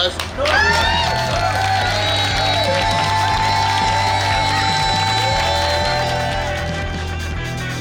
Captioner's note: cheering & Clapping